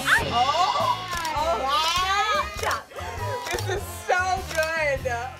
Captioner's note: camera clicking